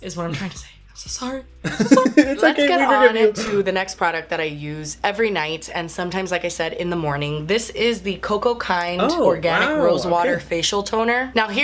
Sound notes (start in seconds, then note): 1.6 Hyram laughs